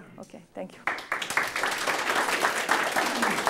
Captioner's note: applause